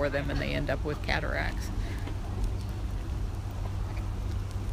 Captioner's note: crunching